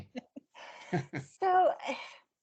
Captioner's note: laughing